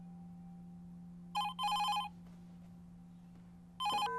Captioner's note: phone rings